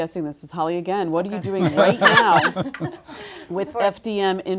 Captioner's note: laugh